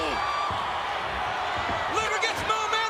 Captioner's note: crowd cheers